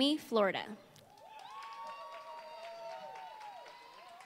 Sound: applause

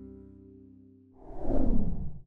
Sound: logo whooshing

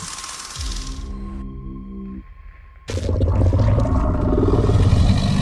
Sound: Scorpius Rex growls

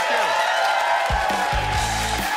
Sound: audience cheers; rock music starts

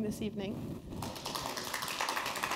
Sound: applause

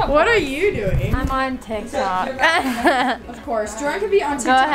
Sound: laughs

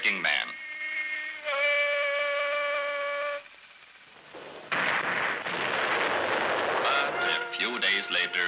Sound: explosion; shouting

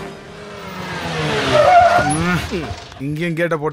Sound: brakes squeak

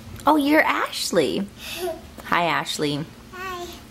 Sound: giggles

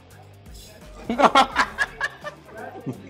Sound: laughs

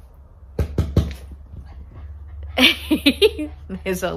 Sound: giggles

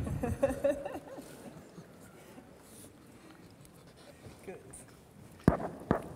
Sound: laughs

